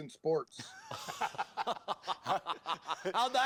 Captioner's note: laughter